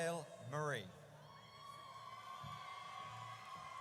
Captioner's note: audience cheers